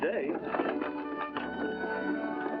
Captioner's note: carriage rattling along